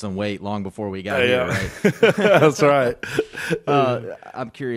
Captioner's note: laughing